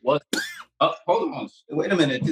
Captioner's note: coughing